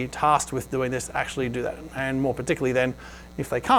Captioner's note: none